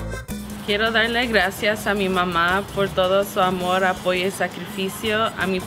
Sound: speaks in foreign language

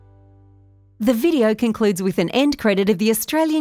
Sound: voiceover

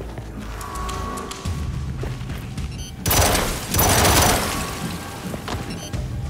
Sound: gunshots

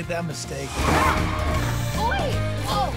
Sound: screams

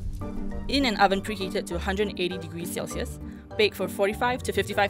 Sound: voiceover

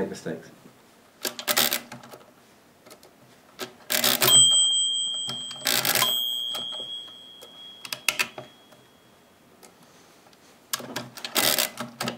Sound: calculator noises--no speaking

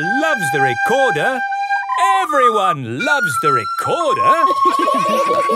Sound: laughter

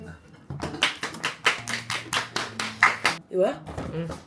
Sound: A round of applause

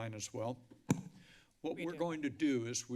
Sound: microphone thump

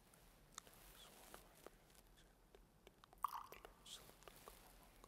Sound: whispering

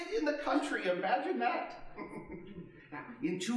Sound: chuckling

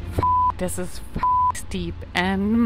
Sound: beep

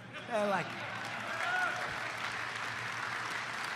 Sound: applause

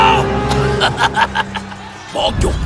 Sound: laughing

